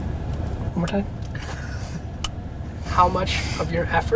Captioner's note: group laughter